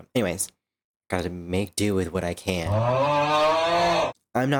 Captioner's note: euAAGHHH